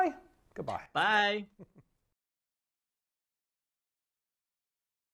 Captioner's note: chuckling